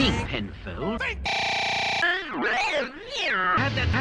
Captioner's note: distorted, glitchy noises